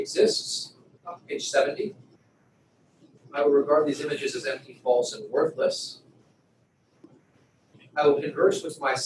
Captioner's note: pause